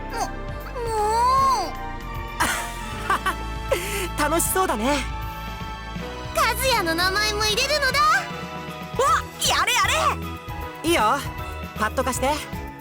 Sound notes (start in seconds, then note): 2.4 laugh